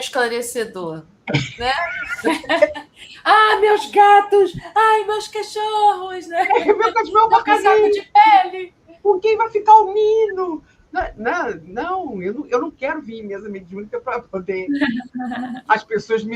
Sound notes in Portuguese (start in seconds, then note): 1.3 risadas; 14.7 risadas